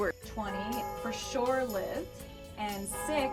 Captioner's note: bell tolling